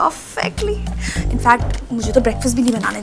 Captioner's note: Gauravi inhales